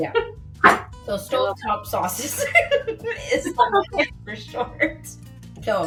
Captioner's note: laughs